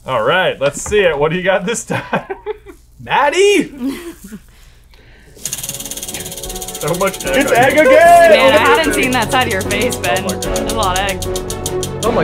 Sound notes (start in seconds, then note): 1.9 laughs; 5.4 suspenseful music